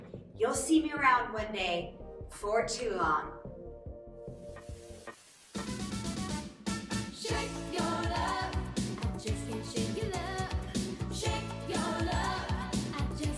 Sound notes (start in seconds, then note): 4.6 static hissing; 5.9 energetic music